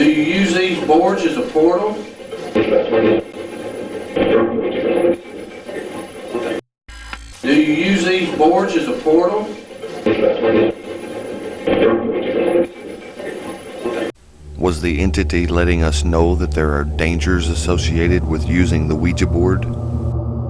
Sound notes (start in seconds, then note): 0.0 static fizzing; 2.6 static playback transmitting; 6.9 static fizzing; 20.3 eerie music; 20.3 static fizzing